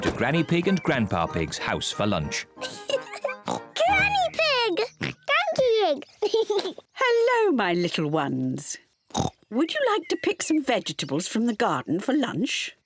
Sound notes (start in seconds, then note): 2.6 giggles and oinks; 4.9 oinks; 6.1 laughs; 9.1 oinks